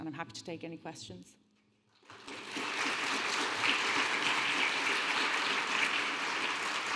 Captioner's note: audience applauding